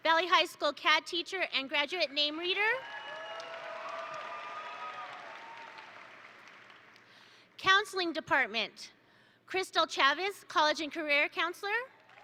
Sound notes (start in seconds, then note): 2.7 attendees cheer; 2.8 attendees applaud